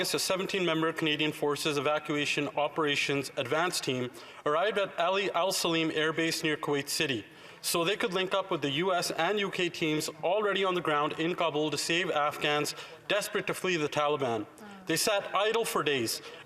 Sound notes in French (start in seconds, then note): 2.5 voix de l'interprète